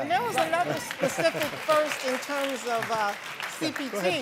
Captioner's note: audience applauding